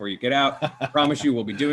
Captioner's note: laughs